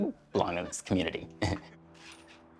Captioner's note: chuckling